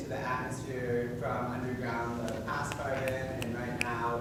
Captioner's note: snapping fingers